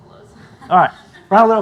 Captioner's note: audience laughs